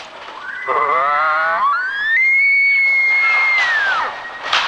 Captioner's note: elk bugle